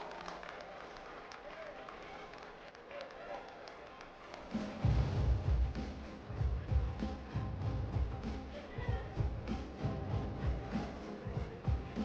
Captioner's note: applause